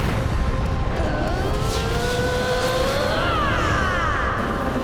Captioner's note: screaming